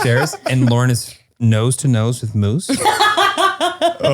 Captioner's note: laughter